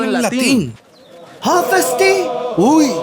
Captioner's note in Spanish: hablando chamorro